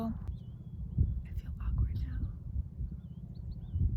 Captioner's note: whispering